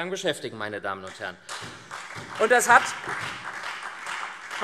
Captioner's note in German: Beifall SPD und Freie Demokraten